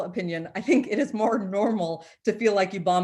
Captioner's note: chuckles